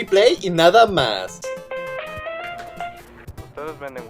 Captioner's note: phone rings